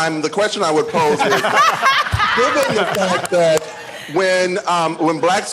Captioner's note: laughter